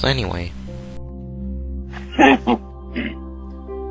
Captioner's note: clears throat